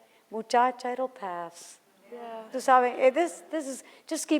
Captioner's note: foreign language